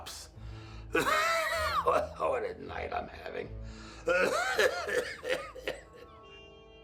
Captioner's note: coughs; dramatic music continues